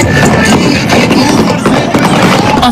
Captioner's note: sounds of gunfire